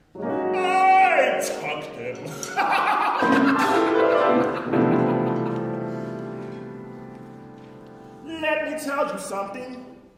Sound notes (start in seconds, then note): 2.4 impressed with her wit, she gives out a high pitch giggle